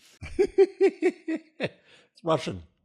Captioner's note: laugh